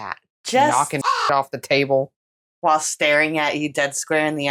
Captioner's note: caw